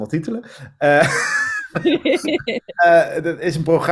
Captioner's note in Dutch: gelach